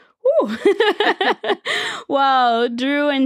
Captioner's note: laughing